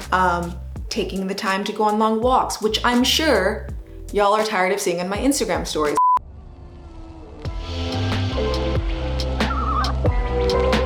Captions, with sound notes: Taking the time to go on long walks, which I'm sure, y'all are tired of seeing on my Instagram stories. (short beep) (upbeat music)